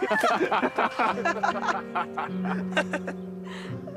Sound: group laughing

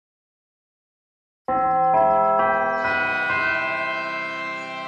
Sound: bell chimes

